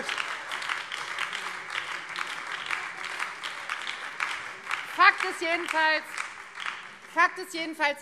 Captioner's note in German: Beifall Freie Demokraten und BÜNDNIS 90/DIE GRÜNEN